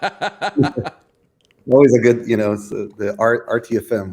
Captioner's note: laughter